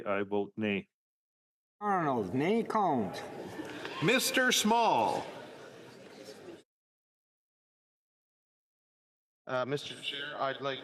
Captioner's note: calling of recorded vote